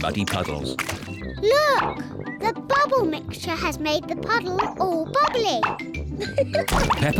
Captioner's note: laughs